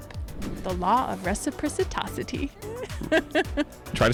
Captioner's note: air whooshing